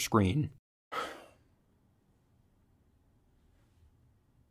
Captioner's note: narrator sighs